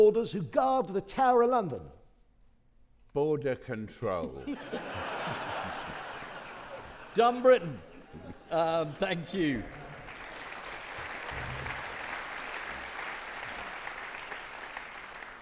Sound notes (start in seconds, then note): 4.3 audience laughing; 10.0 audience clapping